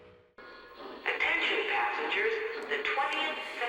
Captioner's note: voiceover